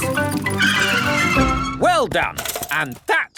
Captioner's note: tires screech